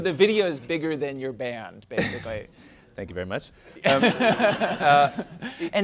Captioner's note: laughter